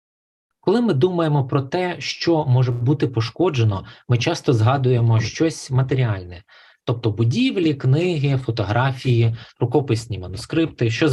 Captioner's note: foreign Language Spoken